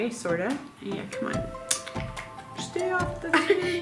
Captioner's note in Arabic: النقرات